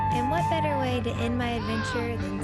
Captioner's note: excited screams